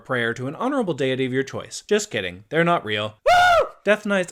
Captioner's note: screams as deity appears